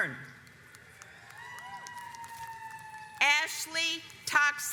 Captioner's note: audience applauds